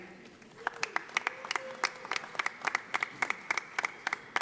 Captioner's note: audience applauding